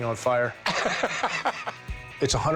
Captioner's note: laughing